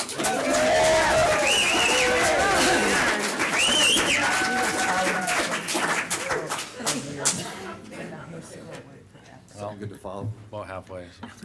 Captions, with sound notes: [applause] [applause] Sound good to follow? About halfway.